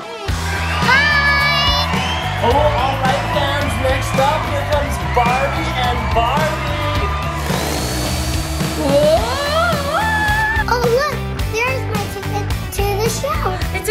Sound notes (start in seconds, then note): 6.7 blow dryer